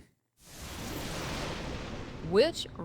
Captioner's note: thunder rumbling